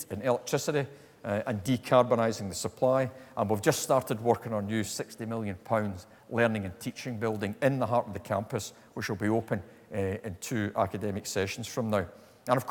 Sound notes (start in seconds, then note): none